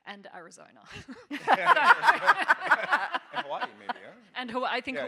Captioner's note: all laughing